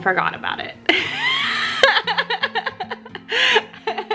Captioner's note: laughs